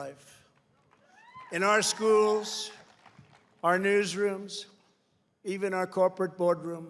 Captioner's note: applause